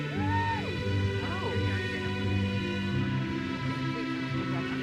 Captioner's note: audience member cheers